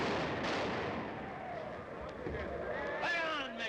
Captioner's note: explodes